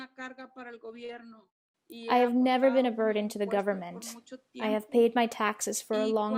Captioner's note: through translator